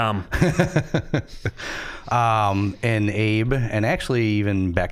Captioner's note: chuckling